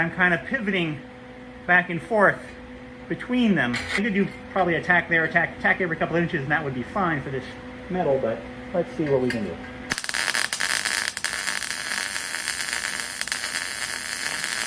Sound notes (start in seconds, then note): 9.9 buzzing